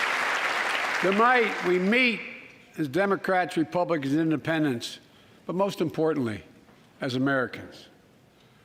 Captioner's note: applause